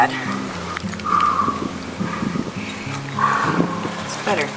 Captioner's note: breathing heavily